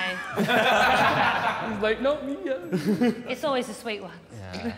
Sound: Sidemen laughing

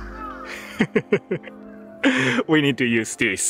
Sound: chuckles

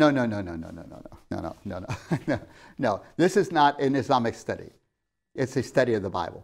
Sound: laughs

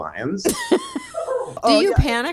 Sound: laughing continues

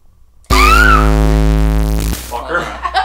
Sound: screaming; laughing

